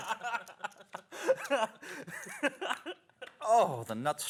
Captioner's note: laughter